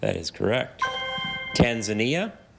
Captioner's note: ethereal ring